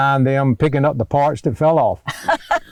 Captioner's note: laughter